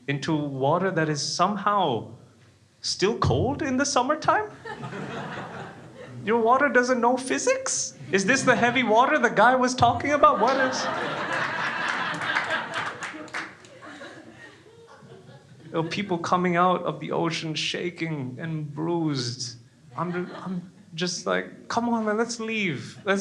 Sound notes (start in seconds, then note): 9.9 crowd laughing